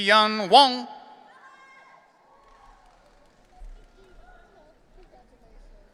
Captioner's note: audience cheering